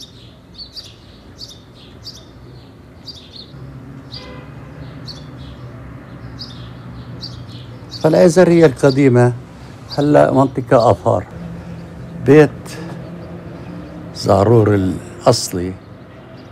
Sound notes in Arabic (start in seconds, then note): 8.2 يتحدث بلغة أجنبية